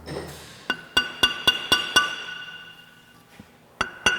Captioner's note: metal clinking